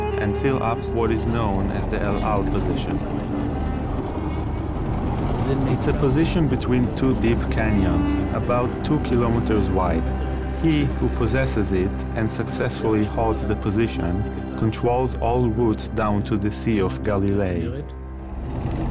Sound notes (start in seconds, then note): 4.0 dramatic music; 4.0 tanks rumbling